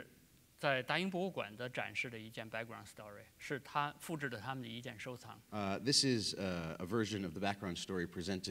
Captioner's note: speaking in Chinese